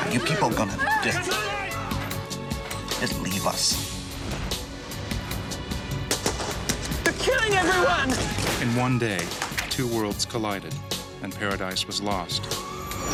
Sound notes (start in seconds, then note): 6.1 gun fire; 8.8 voiceover